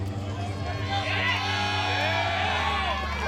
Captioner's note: crowd